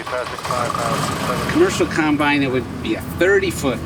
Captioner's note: combine revs